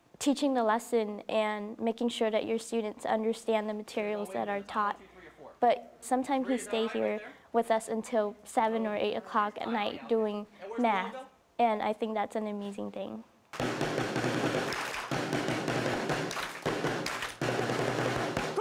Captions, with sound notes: teaching the lesson and making sure that your students understand the materials that are taught. But sometime he stayed here with us until seven or eight o'clock at night, doing math, and I think that's an amazing thing. [drum playing] [students clapping]